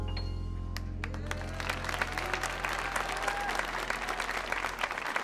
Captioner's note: audience applauding